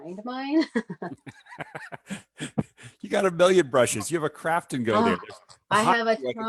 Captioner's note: chuckles